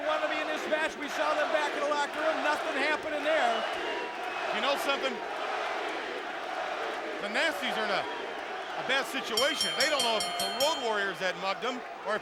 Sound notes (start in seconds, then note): 3.7 crowd cheering; 5.7 crowd cheering; 9.4 bell ringing